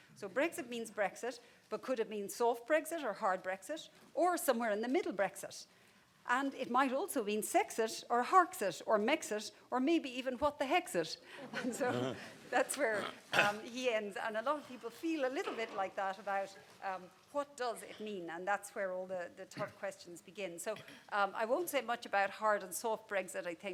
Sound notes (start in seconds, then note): 11.4 people laughing